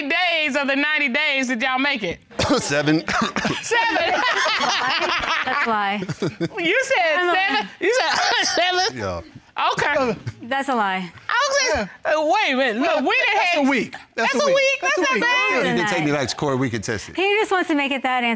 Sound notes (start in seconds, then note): 2.3 coughs; 3.8 laughs; 7.4 coughs